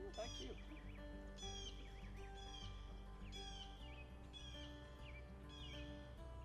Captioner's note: birds chirping; guitar music